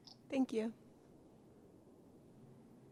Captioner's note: voiceover